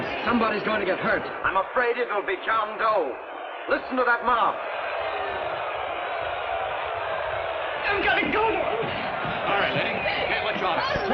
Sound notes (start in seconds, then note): 5.2 shouting